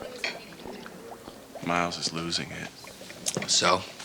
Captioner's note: bubbling noises